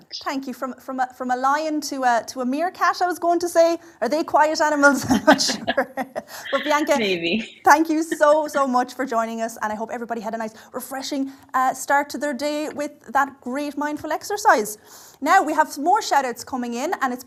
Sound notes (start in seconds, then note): 5.1 laughs